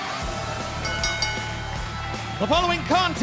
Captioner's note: bell ringing